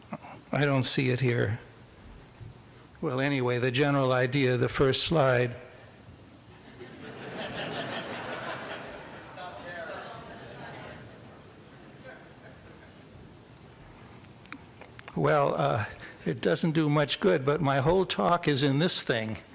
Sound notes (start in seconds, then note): 6.5 laughter